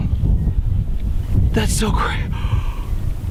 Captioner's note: gasps